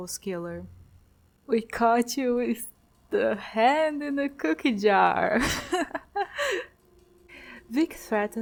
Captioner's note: laughter